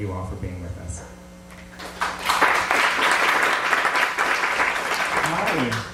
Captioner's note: applause